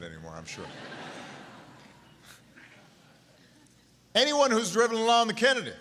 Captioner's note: laughter